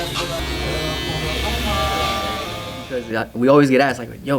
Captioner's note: speaks in foreign language; electric razor buzzing